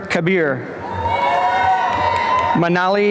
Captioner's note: applause and cheering